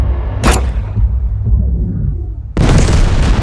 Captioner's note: gun firing; bomb exploding